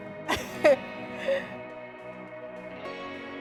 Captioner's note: laughs; gentle music